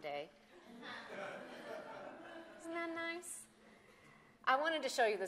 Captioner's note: laughter